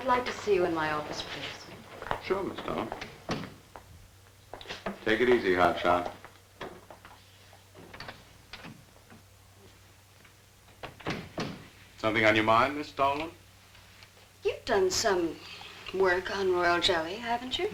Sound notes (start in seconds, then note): 10.8 door shuts